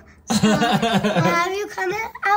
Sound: laughs

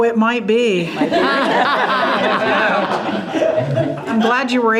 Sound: group laughing

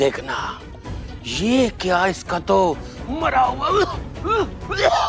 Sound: coughs

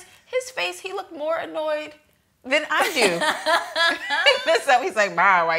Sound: laughs

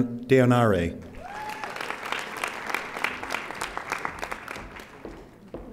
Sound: audience applauding

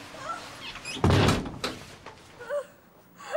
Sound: groaning

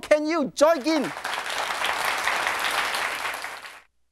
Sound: applauding

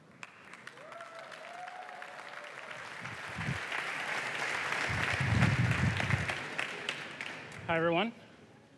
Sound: applause

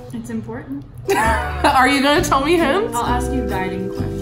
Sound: laughs

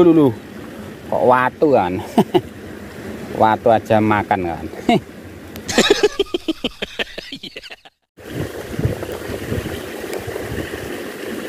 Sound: laughs

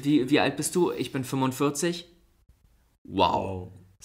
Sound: silence

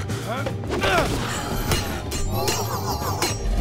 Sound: grunting; clanking

